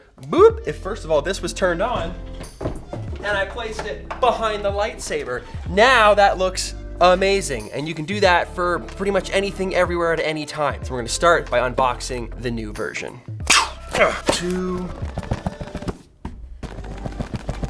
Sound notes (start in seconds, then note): 13.4 grunting; 13.5 slashing; 16.2 jiggling